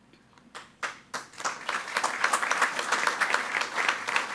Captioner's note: all applauding